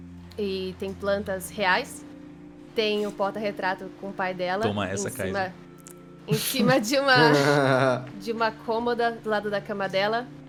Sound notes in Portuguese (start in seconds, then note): 6.3 Risadas